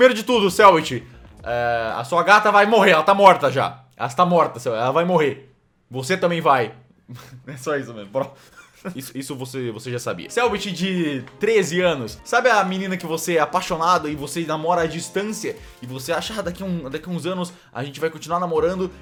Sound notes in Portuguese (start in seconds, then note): 8.2 risos